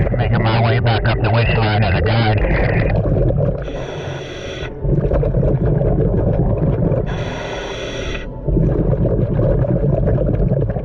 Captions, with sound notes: Making my way back up the winch line at the dock. (heavy breathing) (water gurgling)